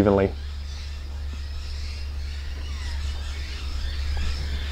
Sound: birds chirping

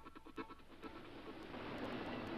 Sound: water roars; contemplative guitar music

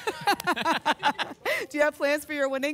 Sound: laughter

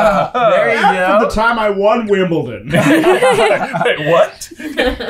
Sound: laughter

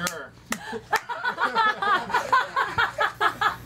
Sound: ALL LAUGНlNG

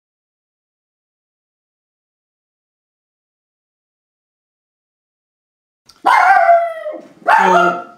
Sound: dog barks

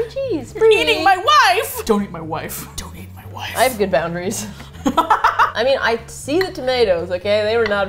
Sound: whispering intensely; laughs

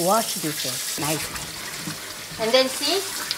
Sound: water running

